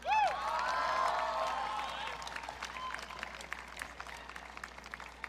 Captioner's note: audience cheering